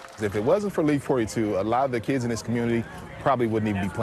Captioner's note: cheers